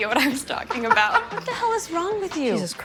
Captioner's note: laughing